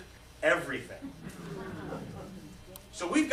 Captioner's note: laughter